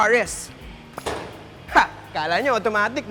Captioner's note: hood pops